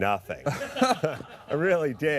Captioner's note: laughter